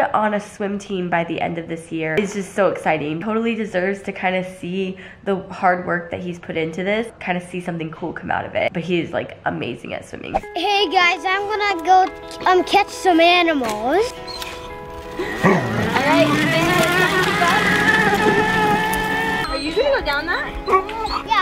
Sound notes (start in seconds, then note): 15.1 engine revving